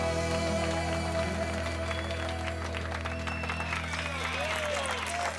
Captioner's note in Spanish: aplausos; silbidos